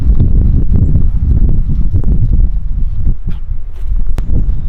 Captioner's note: birds chirping